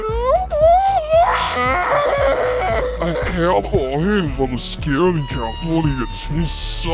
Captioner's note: scream